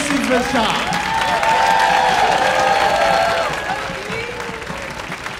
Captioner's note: audience cheering